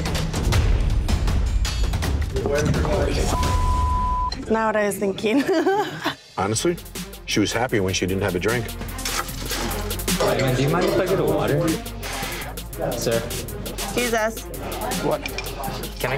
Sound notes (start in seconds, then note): 3.3 beeping